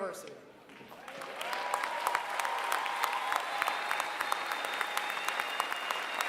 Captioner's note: applause